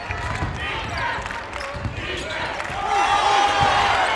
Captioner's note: crowd